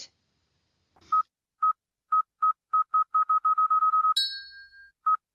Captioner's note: beeping